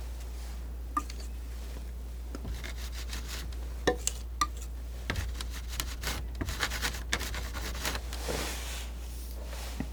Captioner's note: scratching